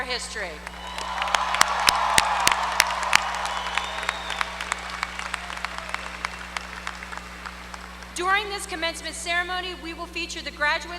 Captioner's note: applause